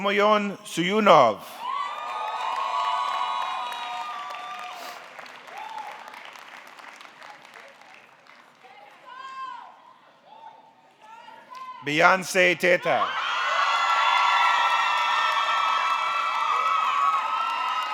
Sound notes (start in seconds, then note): 1.6 audience cheering; 1.8 audience clapping